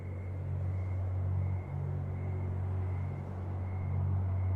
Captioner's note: insects chirping